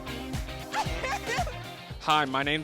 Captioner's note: laughing